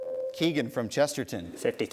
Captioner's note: ding